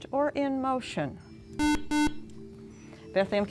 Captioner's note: beeping